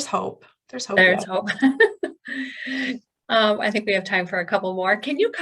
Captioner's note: laughter